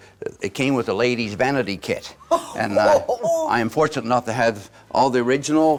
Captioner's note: chuckles